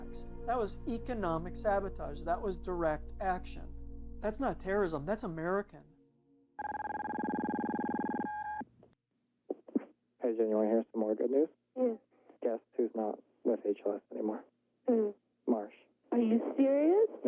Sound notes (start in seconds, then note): 6.6 beeping